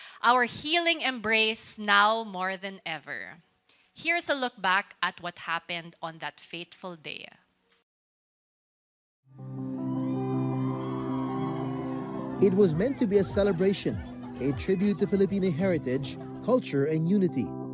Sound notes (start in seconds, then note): 9.3 soft music playing; 9.7 crowd cheering